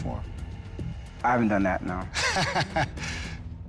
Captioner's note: laughs